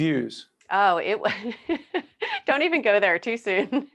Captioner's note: laughing